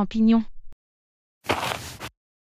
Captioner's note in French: FX - Footsteps - On Multiple Dirt - Walk